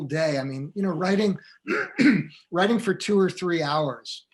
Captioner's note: throat clearing